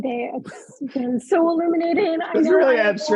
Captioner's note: chuckling